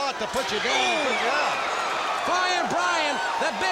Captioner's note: crowd cheering